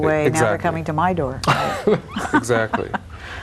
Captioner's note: laughs